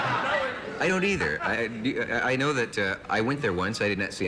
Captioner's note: laughter